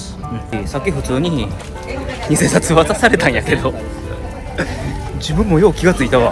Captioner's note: laugh